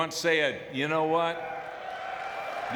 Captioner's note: audience cheering; claps